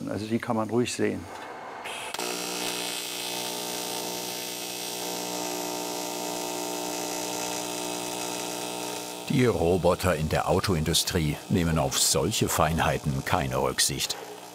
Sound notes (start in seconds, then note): 1.5 whirring of the welder